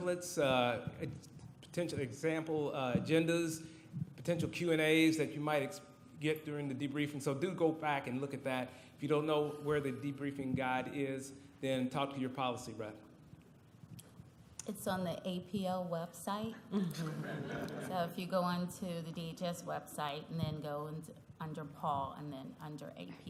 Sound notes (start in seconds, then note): 16.8 laughter